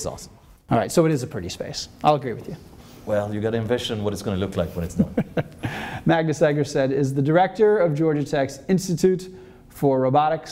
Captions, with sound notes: - It is awesome. - Alright so it is a pretty space. I'll agree with you. - Well you gotta envision what it's gonna look like when it's done. - (laughing) Magnus Egerstedt is the director of Georgia Tech's Institute for Robotics